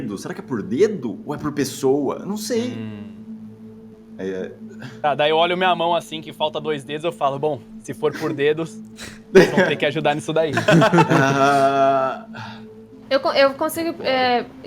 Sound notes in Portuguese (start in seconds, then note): 9.0 Risadas